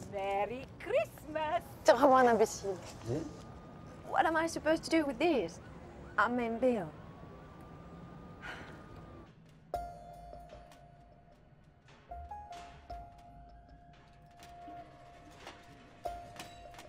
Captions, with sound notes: - Merry Christmas! - T'es vraiment un imbécile. - Yeah. - What am I supposed to do with these? I'm meeting Bill. (rattling)